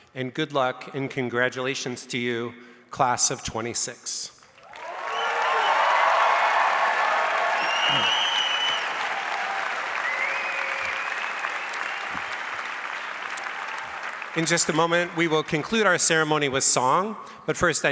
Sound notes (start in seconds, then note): 4.8 audience cheers and applauds